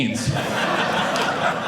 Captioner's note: audience laughing